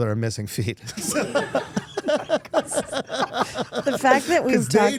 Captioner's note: everyone laughing